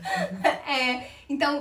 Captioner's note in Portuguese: risos